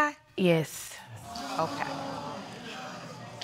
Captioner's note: audience exclaiming